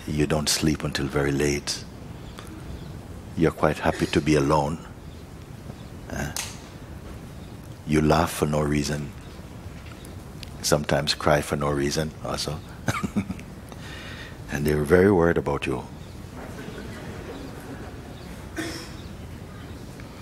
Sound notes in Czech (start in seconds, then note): 16.4 smích